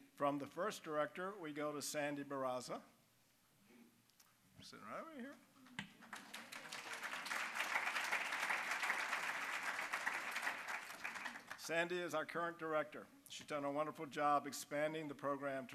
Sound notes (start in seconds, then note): 5.9 applause